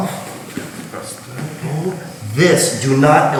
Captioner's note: speaking in a foreign language